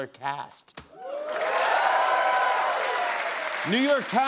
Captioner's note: cheers and applause